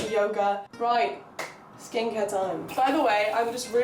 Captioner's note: clap Of Enthusiasm